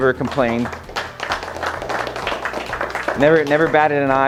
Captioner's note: audience clapping